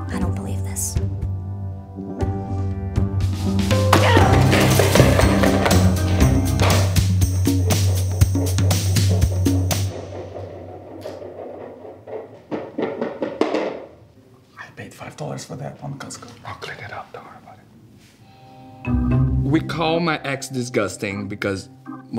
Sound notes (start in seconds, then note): 4.2 yelling; 12.4 bowl clattering